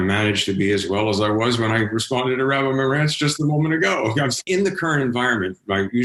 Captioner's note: laughs